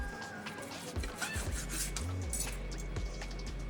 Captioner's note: water running